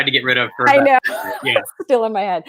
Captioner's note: laughs